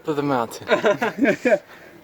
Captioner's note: laughs